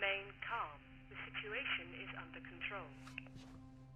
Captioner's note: intercom